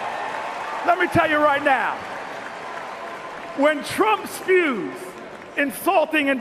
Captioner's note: cheers and Applause